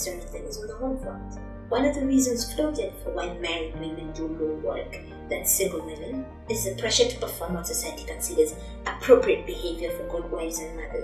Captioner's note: gasp